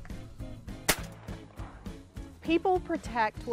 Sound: gunfire cracking

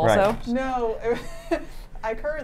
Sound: laughs

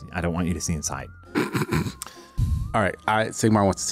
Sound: chuckles

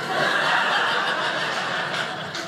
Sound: audience laughing

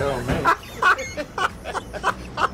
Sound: laughs

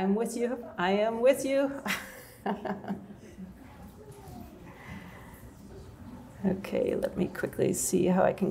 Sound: laughter

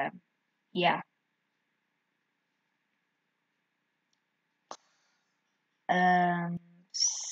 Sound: dead silence

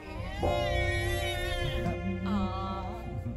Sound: baby crying

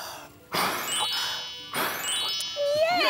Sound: puff! Puff!

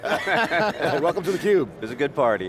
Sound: laughing

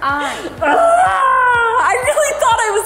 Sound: speaker 1 groaning

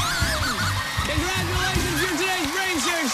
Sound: screaming

